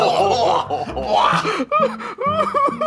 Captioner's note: chefs laughing; Keith exclaims; Zach laughing